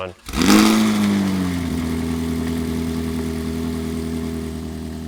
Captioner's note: engine roaring